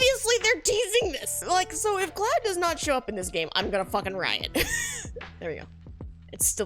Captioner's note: laughs